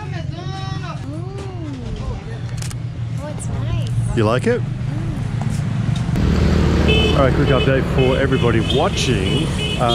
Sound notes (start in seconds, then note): 6.2 engines roaring; 6.7 car horn honking